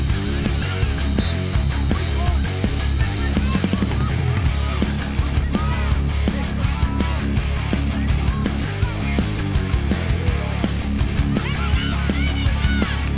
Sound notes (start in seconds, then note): 1.1 whistle blowing; 2.7 yelling